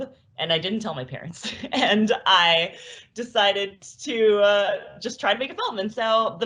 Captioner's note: laughs